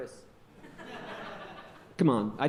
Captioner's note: audience laughing